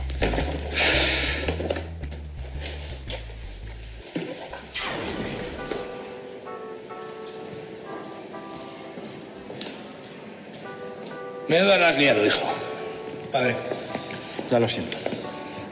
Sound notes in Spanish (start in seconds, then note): 0.7 resopla